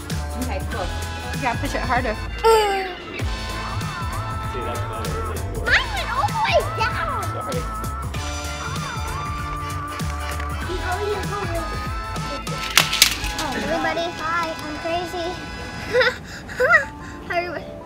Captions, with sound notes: - Okay, cool. You gotta push it harder. - Mine went all the way down! - Sorry. (car rattling) - Everybody, hi, I'm crazy. (laughs)